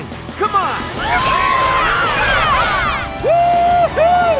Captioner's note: cheering